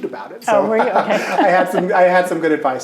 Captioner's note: both laughing